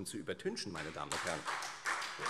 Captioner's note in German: Beifall Freie Demokraten und vereinzelt SPD